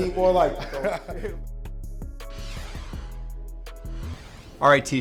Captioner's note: chuckling; logo whooshing